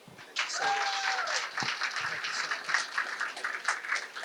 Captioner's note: applause